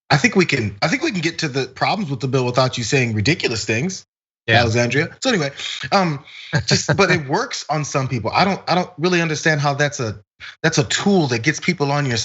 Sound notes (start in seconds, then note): 5.4 laugh